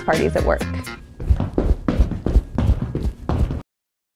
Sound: tap dancing feet

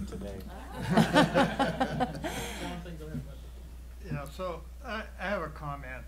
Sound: laughing

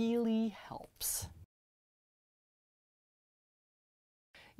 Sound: no Sound Present

